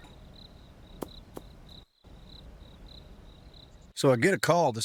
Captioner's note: ball thudding